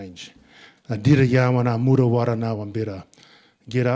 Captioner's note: speaking in Ngunnawal